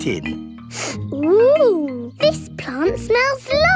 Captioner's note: sniffs